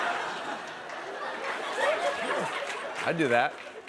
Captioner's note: laughter